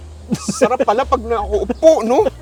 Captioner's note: laughs